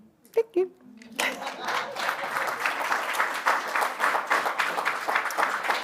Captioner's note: applause